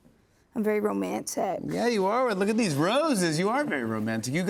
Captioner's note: normal voice